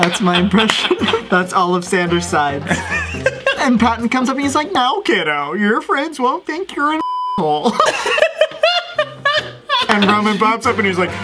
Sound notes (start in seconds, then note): 2.6 laughs; 7.0 beep; 7.6 laughs